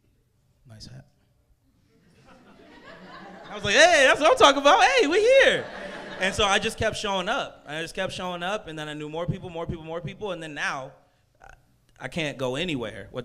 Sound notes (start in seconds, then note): 2.0 crowd laughs